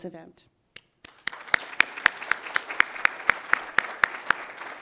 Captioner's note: applause